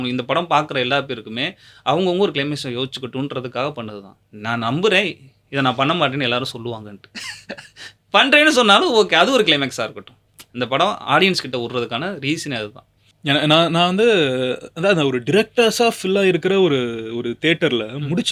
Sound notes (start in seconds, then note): 7.1 laughs